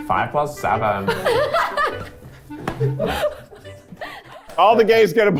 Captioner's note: everyone laughing